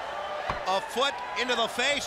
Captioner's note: crowd cheering